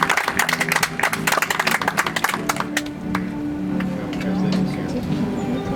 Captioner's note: audience applauds